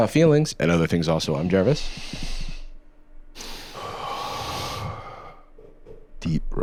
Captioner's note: both inhale and exhale meditatively